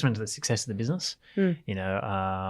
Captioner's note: none